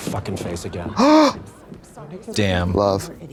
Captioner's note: Trixie gasps